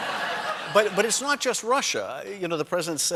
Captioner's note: laughter